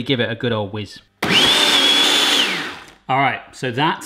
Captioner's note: blender whirs